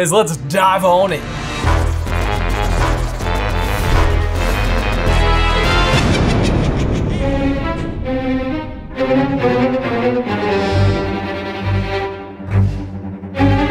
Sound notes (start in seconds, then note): 2.2 logo swooshing; 6.0 spooky laugh